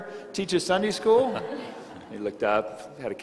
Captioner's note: crowd laughing